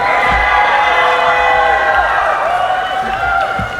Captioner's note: cheering